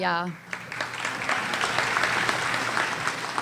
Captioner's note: applause